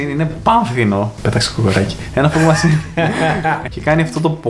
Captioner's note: laughs